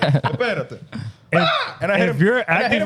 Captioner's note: laughing